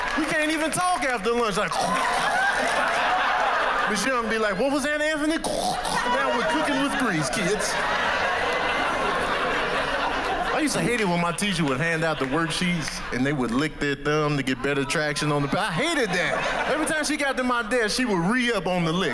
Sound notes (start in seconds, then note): 1.7 clearing throat; 4.9 clearing throat; 8.2 laughter